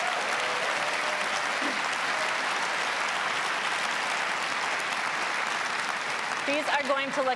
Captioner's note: applause